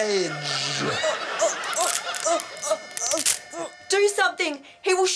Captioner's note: groans; cracking sound effect